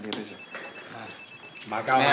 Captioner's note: mobile phone rings